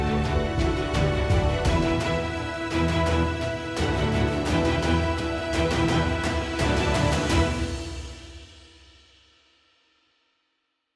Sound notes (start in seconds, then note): 7.7 music stops